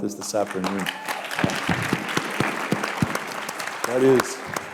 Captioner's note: applause